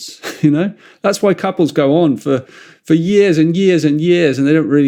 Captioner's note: chuckles